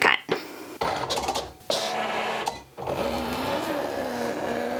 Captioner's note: cricut machine grinding